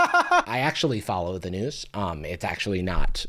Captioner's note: laughs